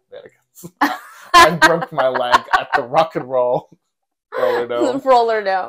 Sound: laugh

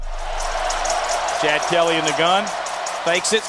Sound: voiceover

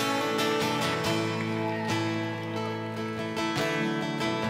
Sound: cheering

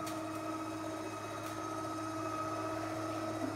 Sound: motor whirring

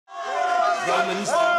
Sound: crowd jeering

